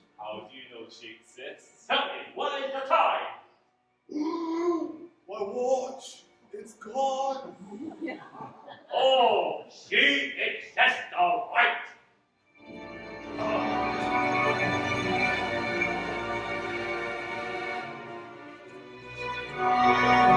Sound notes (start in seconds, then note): 4.2 gasps; 12.6 dark and dangerous music